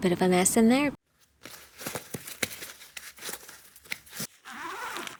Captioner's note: rustling